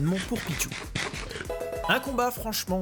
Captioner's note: munch munch munch